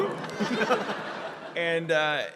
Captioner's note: laughter